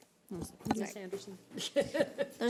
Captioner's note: overlapping chattering